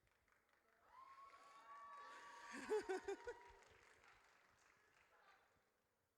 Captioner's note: audience cheers